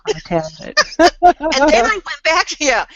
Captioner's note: laughs